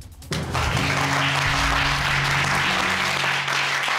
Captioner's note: applause